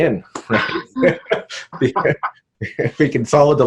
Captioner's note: both laughing